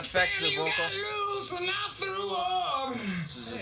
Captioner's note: echoing